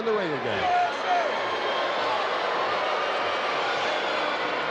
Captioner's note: crowd yelling